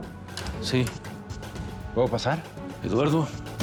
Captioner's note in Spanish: toques en la puerta